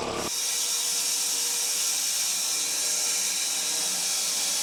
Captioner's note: saw whirring